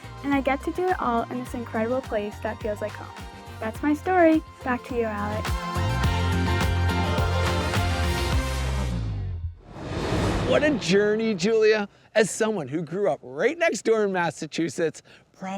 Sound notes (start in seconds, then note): 5.7 upbeat music continues; 9.6 graphics whooshing